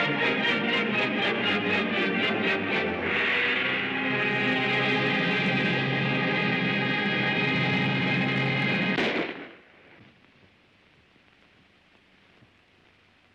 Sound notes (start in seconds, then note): 0.0 dramatic music; 8.9 gunshot